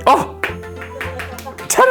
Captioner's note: applause